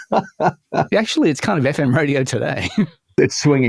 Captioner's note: laughs